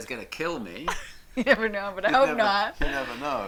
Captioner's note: laughs